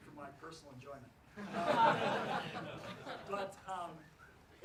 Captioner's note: laughs